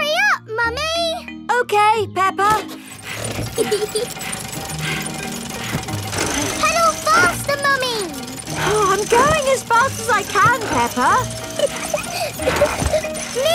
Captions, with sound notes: Hurry up, Mummy! Okay, Peppa. -(PEPPA LAUGHING) -(MUMMY PIG PANTING) Pedal faster, Mummy! I'm going as fast as I can, Peppa! (PEPPA LAUGHING)